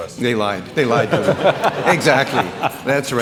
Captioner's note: audience laughing